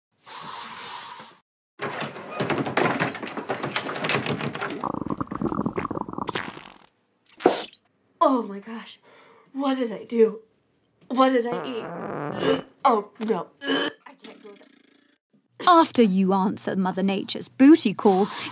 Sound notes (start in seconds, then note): 0.3 aerosol spaying; 4.5 stomach growling and toots